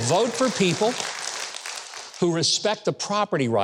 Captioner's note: audience applauds